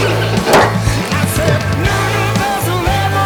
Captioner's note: sigh